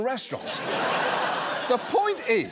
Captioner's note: laughter